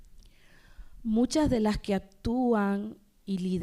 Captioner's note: speaking spanish